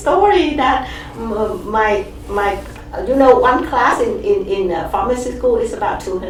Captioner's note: laughs